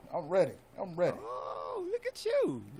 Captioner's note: gasps